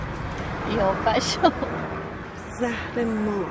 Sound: laughing

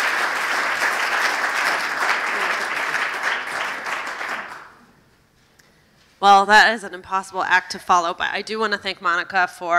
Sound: applause

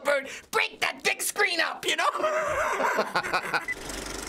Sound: laughs

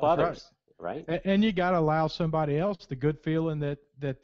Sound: voiceover

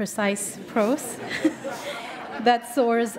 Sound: laughter

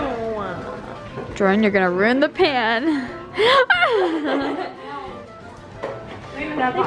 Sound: laughs

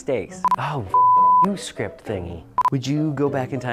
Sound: beeps; beeps

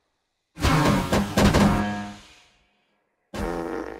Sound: farting

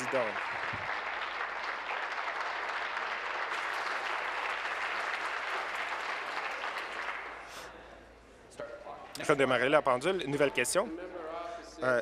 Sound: applause

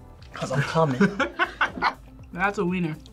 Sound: laughs

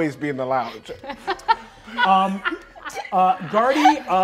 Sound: laughs

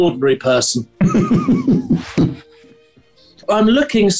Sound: giggling

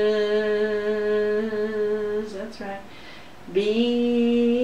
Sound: buzzing sounds; humming sounds

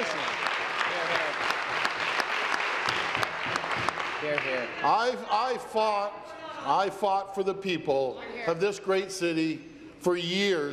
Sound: applause

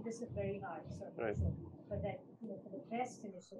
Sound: faintly speaks

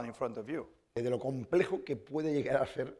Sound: speaking spanish

